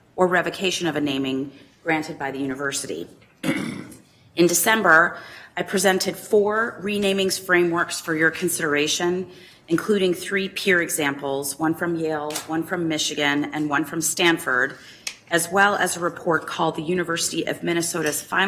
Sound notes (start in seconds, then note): 3.4 clears throat